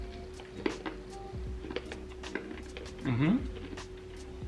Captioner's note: chewing candies loudly